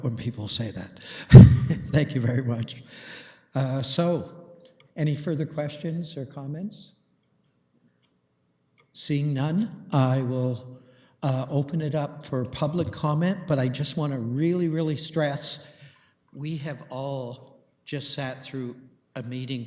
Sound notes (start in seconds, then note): 1.3 chuckling